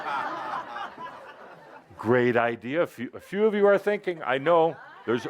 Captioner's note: laughter